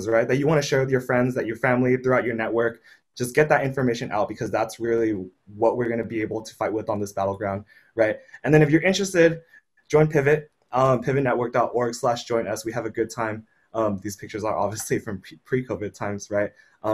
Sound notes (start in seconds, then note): none